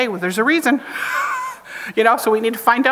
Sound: chuckles

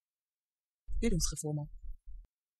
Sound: fast Pronunciation

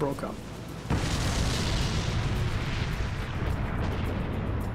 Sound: plane crashing

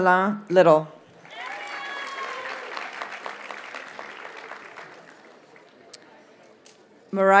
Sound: audience cheers and applauds

